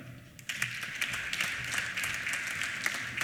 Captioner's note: applause